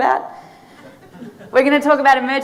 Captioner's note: audience laughing